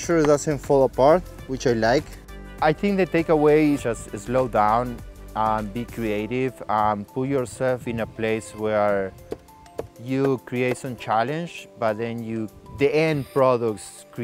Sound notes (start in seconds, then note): 9.0 knife chopping